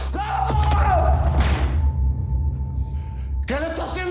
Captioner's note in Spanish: Grito; Disparo